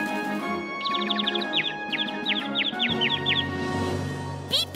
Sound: bird tweeting

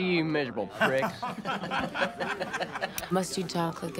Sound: laughing

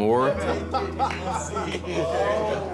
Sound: laughter; overlapping chatter

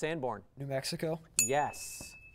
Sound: ding

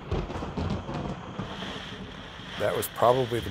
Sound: rain pattering; thunder crashing

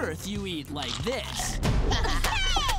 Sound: laughter

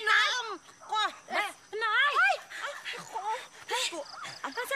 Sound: gasps

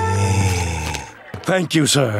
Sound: sniffs

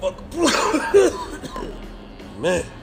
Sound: man coughing

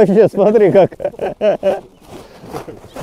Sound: laughing

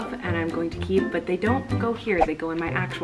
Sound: whooshing

